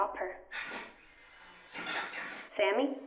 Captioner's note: metal clanking